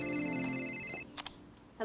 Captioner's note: phone rings